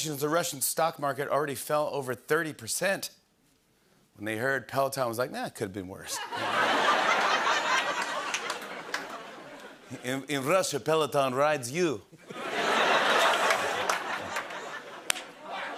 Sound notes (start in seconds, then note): 6.1 laughter; 12.2 laughter